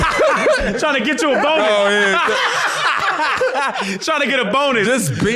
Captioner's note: laughing; laughs